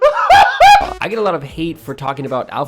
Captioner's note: cries out